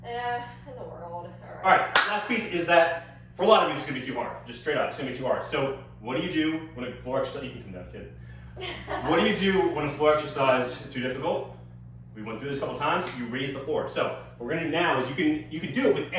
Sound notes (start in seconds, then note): 1.9 clap; 8.6 giggles